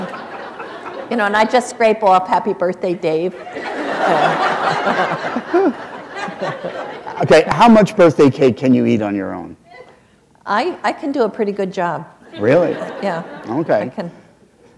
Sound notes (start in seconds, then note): 12.3 laughter